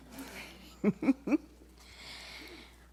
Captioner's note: laughter